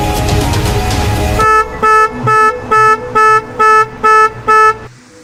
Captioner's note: car alarm sounds